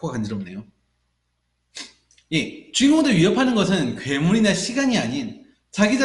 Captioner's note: nose-rubbing noises